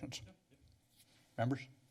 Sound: pause

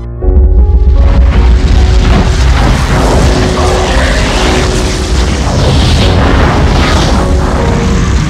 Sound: explosion

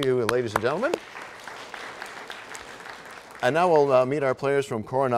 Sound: applause

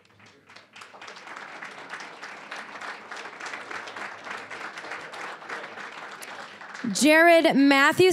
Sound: applause

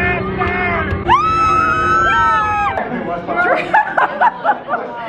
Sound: excited screams; laughs

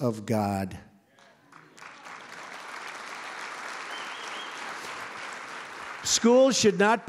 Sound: applause

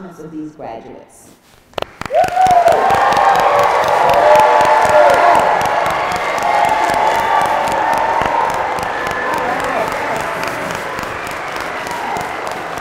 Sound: applause

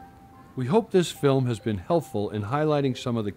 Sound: voiceover

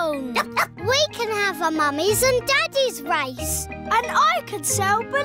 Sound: barks

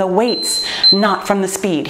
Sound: timer beeps

